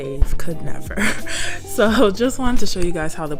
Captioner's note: laughs